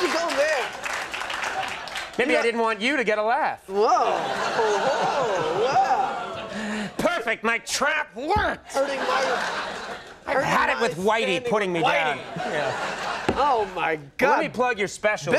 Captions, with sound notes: Why would you go there? Maybe I didn't want you to get a laugh. Well. (audience groans) Perfect. My trap worked! I've had it with whitey putting me down. Oh my God. Let me plug your special.